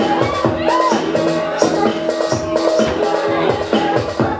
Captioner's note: cheering